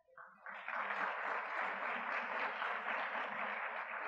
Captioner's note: audience clapping